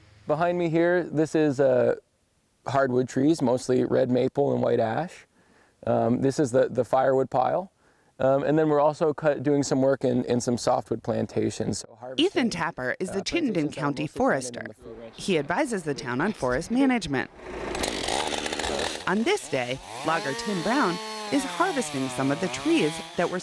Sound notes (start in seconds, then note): 17.2 chainsaw revving